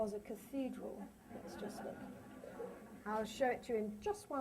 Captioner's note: laughter